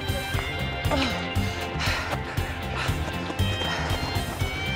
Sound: groaning

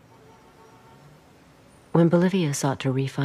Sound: horns beeping

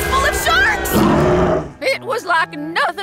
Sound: shark growls

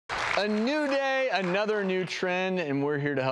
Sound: audience applauds

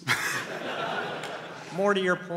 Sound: laughter

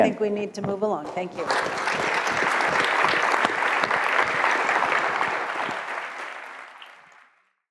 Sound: applause

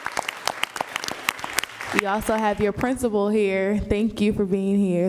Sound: applause

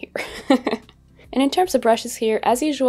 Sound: laughing

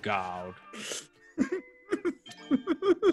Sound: laugh

